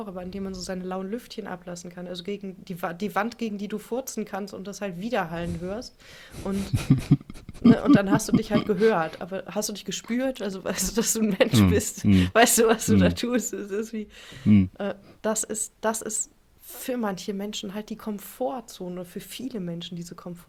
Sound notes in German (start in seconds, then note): 6.5 gelächter; 17.1 schnauben